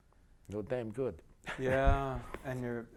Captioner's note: laughter